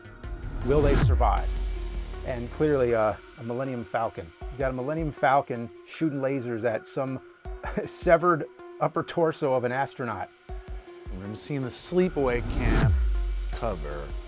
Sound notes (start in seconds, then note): 7.4 laughs